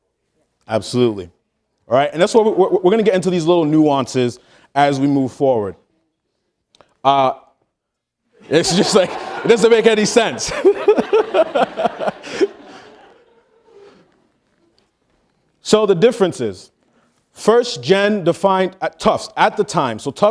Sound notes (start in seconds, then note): 8.4 audience laughing; 11.9 laughing